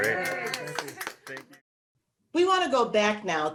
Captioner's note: everyone cheering